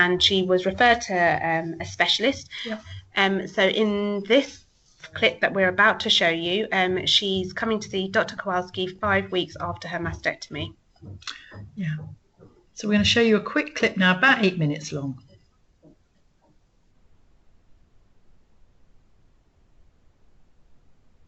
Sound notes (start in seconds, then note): 19.8 silence